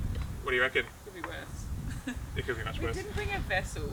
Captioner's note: laughs